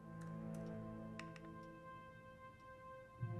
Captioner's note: tongue click; clap